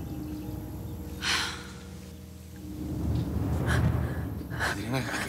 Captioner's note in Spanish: exhala